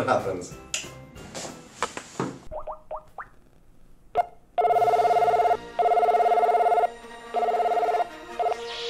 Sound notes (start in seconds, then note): 2.4 Skype call